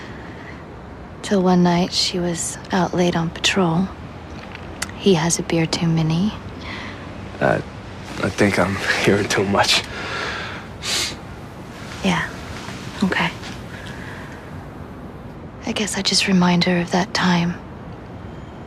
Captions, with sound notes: Till one night, she was out late on patrol. He has a beer too many. Uh, I think I'm hearing too much. [sniffing] Yeah, okay. I guess I just remind her of that time.